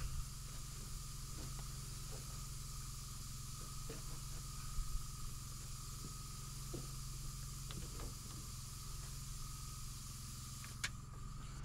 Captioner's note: footsteps